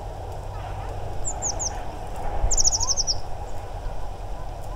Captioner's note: Blue tit contact call